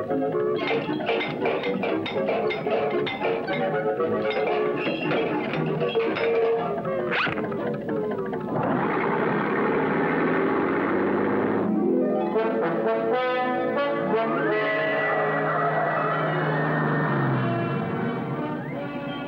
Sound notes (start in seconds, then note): 0.5 music, Clanging of Armor; 8.5 motor Noise